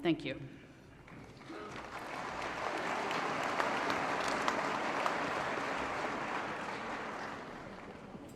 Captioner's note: applause